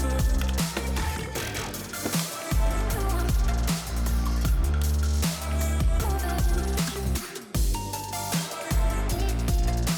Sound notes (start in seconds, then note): 1.9 ice cracking